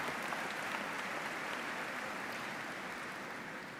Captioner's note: applause